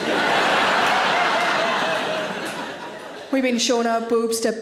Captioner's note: audience laughs